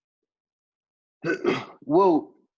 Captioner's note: clears throat